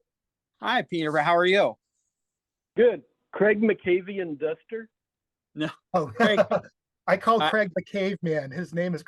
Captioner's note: laughing